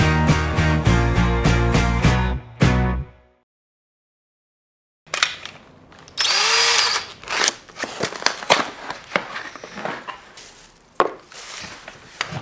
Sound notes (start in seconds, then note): 0.0 upbeat music; 6.1 drilling; 7.1 ripping